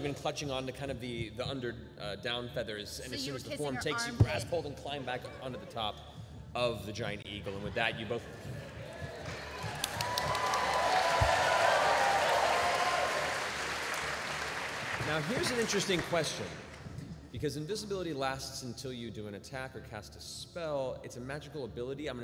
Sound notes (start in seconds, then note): 11.7 whooshing